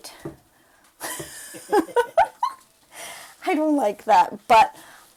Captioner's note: both laugh